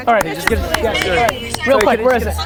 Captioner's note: group applause